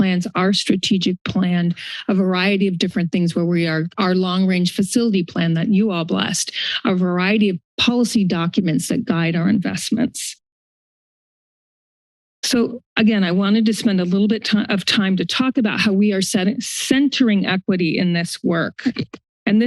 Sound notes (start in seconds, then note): 10.3 silence